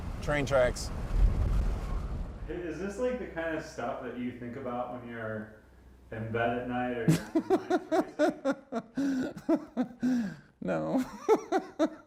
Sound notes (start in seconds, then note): 7.1 laughs